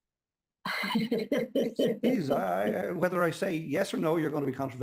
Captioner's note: laughs